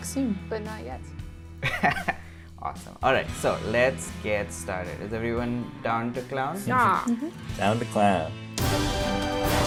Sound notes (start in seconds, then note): 1.7 laughs